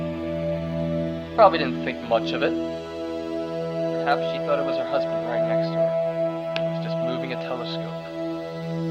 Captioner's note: none